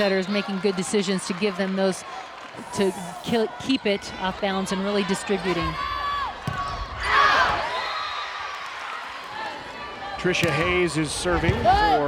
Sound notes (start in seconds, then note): 7.1 crowd and players cheering